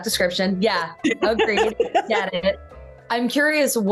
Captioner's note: laughing